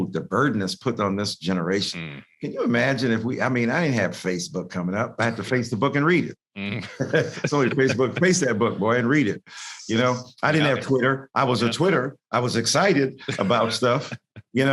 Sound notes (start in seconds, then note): 6.7 both laughing